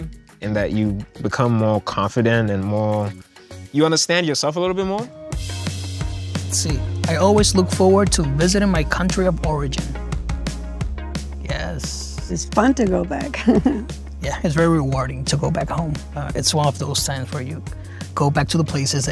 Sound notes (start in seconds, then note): 5.1 upbeat music; 13.3 chuckling